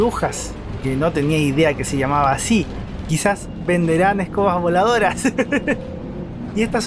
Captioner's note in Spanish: risas